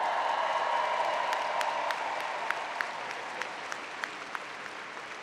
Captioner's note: applause